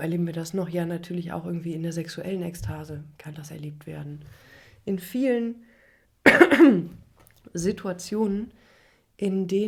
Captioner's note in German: husten; räuspern